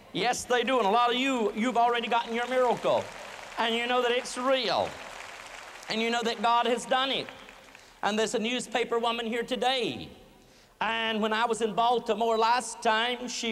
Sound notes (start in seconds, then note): 1.5 applause